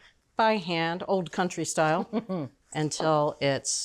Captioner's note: Julia chuckles